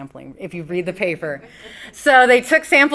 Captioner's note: audience laughs